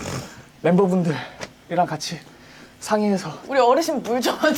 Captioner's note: huff